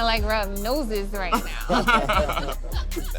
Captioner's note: laughter